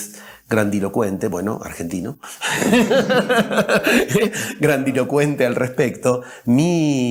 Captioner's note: laughs